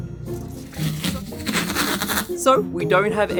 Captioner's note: tape ripping